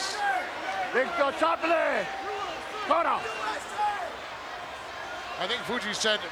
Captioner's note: Mr. Fuji speaks Japanese